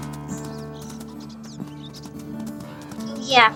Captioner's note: birds Tweet